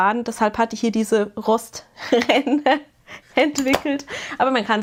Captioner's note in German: gelächter